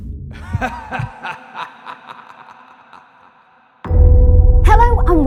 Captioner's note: evil laughing